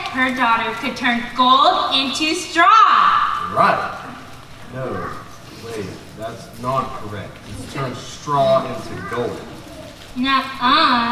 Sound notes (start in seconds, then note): none